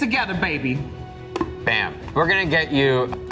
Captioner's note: mic thuds